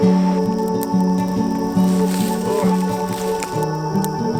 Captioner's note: fire crackling